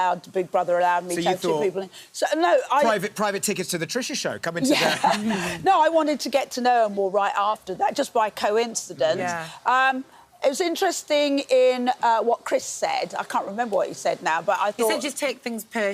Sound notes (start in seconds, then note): 4.6 laughing